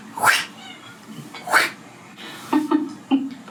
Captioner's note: hissing